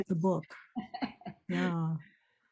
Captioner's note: laughs